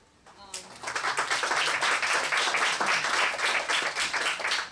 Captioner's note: applause